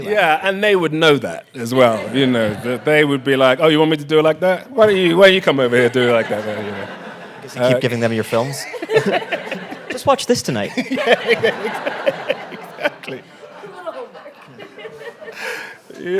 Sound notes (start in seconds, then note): 1.8 audience laughing; 6.8 audience laughing; 9.0 all laughing; 12.2 laughs; 14.9 audience laughing